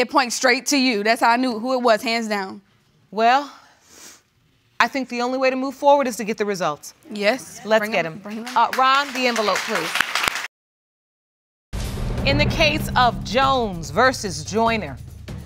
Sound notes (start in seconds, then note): 8.3 audience applauding